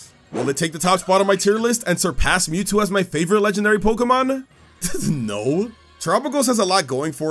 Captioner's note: laugh